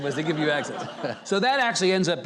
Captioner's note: audience laughing